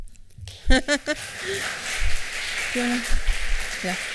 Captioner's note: applause